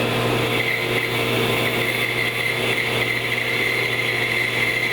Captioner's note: blade squealing